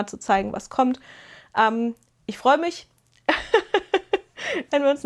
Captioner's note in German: gelächter